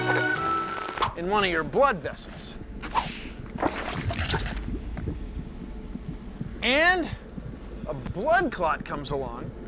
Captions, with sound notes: ...IN ONE OF YOUR BLOOD VESSELS... [ WHIP CRACKING, SQUISHING ] ...AND A BLOOD CLOT COMES ALONG,